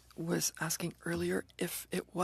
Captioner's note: speaking French